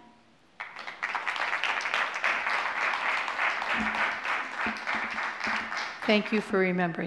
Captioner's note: applause